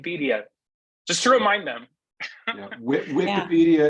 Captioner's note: laughs